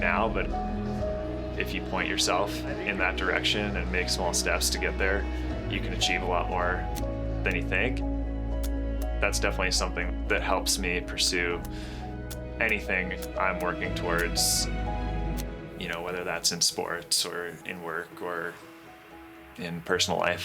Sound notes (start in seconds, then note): 7.6 camera clicking; 12.3 camera clicking